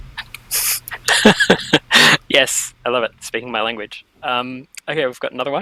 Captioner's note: laughing